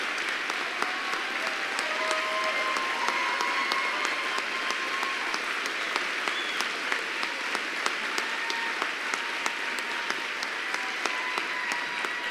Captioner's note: applause